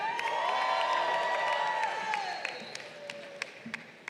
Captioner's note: crowd cheering